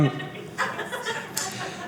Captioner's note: audience laughing